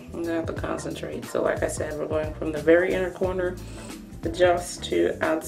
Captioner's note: inhales